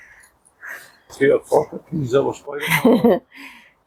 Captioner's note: laughter